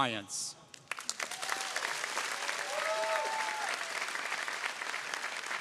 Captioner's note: audience applauding